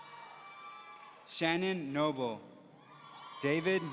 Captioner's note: audience cheering; audience cheering